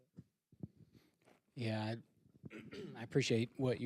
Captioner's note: clears throat